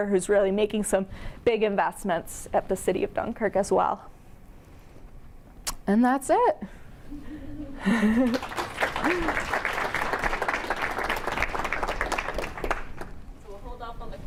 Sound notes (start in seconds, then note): 7.1 chuckles; 8.0 audience clapping